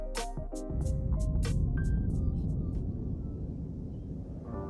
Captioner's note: air whooshing